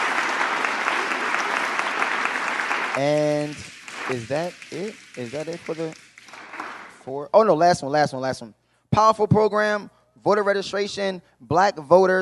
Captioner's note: applause